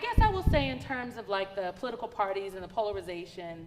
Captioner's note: none